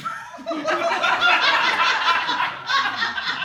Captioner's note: audience laughing